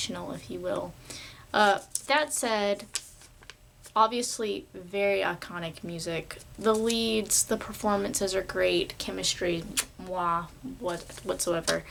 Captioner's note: mwah